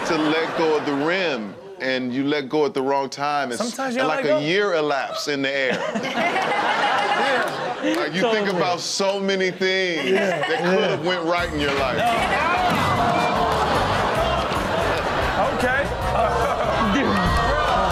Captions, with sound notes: - And you just forget to let go of the rim and you let go at the wrong time and sometimes it's like a year elapsed in the air. (audience laughs) - Totally. - You think about so many things that could have went right in your life. (audience groans and laughs) - Okay.